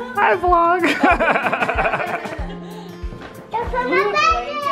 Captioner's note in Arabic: الكل يضحك